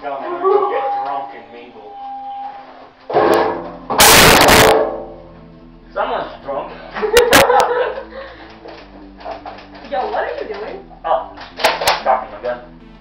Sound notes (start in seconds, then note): 3.9 earrape; 7.0 fake laughter